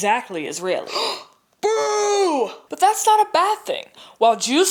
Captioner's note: gasps